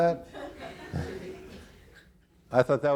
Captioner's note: audience laughing